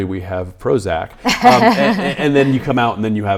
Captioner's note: laughing